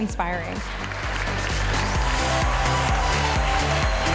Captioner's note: crowd applause